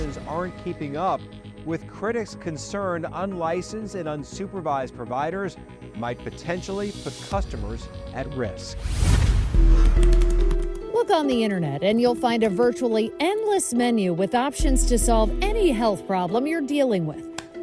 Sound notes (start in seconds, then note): 8.7 scene swooshing; 9.6 computer keys tapping